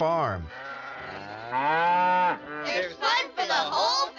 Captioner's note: cow mooing